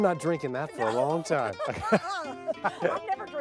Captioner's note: laughter